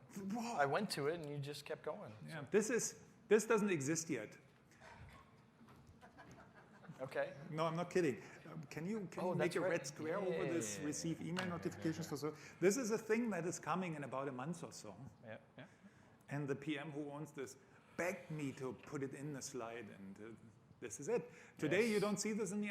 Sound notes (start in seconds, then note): 5.8 laughter